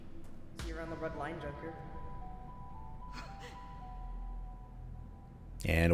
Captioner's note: porcelain speaking